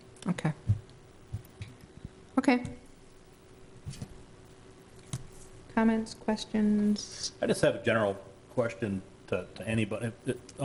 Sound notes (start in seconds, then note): none